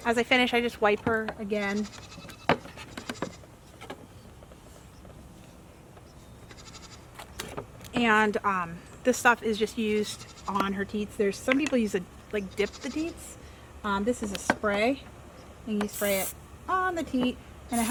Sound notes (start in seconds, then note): 1.9 goat bleating in background